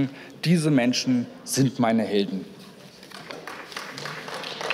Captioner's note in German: Beifall